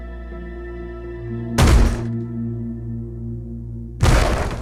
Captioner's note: banging; banging